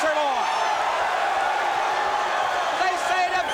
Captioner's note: crowd cheering